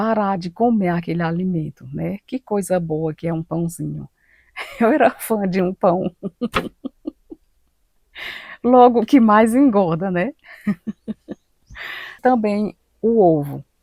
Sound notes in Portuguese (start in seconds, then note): 5.5 risadas